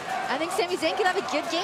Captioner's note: fans chanting